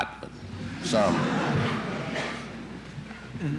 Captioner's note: laughter in the courtroom